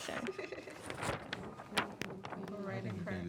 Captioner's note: student laughs